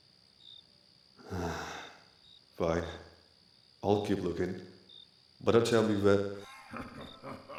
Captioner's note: sighs; sinister, guttural laughter